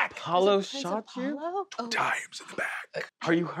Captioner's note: whispers